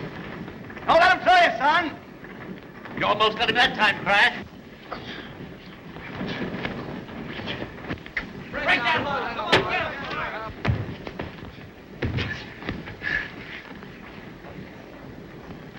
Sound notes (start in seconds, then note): 8.4 men chatter